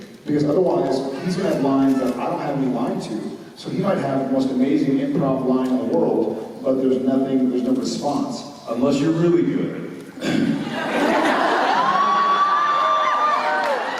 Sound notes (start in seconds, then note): 10.1 clears throat self-confidently; 10.9 cheers